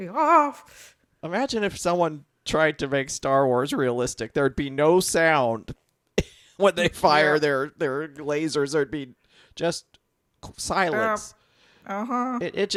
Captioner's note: chuckles